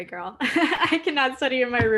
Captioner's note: laughs